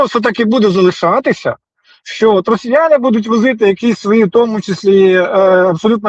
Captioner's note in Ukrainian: сопіння